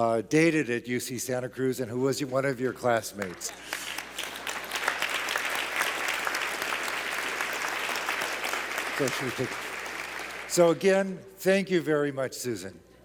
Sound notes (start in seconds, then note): 3.2 claps